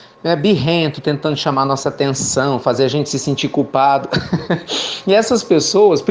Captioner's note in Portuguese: Risos